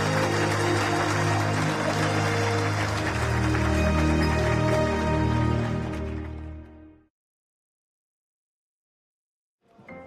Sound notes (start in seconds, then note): 0.0 applause